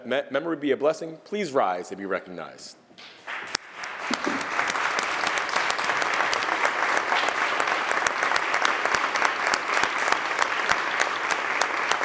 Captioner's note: applause